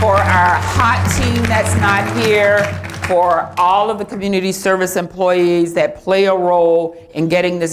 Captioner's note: applause